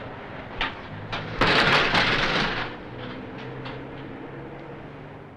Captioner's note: trash can clatters